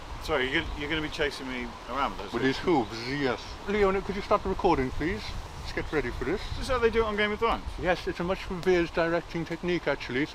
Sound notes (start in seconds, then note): none